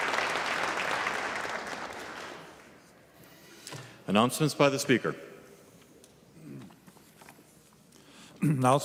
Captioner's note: applause